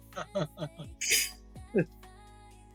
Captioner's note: laughing